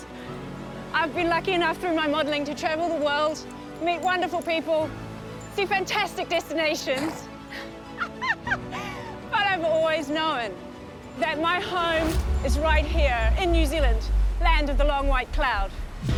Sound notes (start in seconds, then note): 6.9 horse snorts; 7.8 laughs